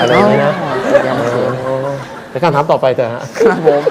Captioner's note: laughter